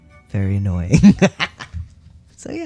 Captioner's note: laugh